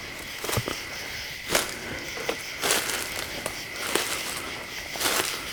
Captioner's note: leaves crunching